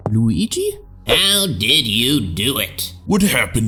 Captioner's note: in american accent